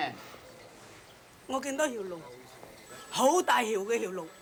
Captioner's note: speaking Chinese